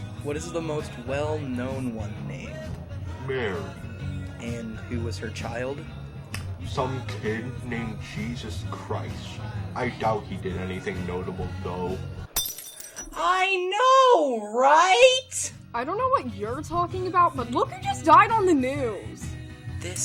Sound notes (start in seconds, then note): 6.3 lip smack; 12.3 glass shatters